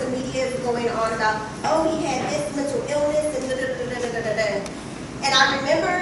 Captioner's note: vocalizing repetitive statements